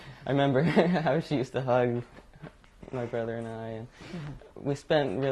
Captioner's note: laughs